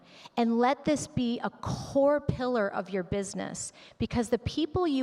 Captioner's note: none